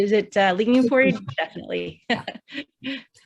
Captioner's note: laughing